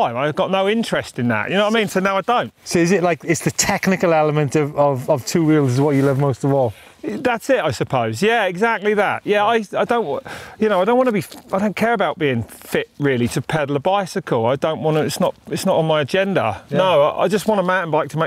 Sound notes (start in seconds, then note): none